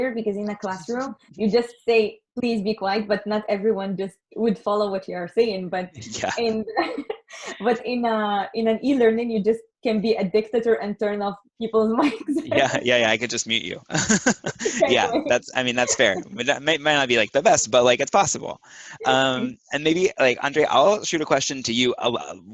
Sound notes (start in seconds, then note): 14.8 laughs